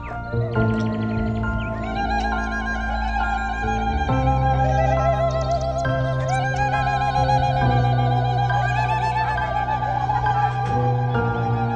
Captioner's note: crowd noise/Applause